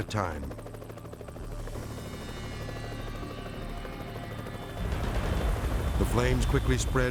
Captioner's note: helicopter rattling; ominous music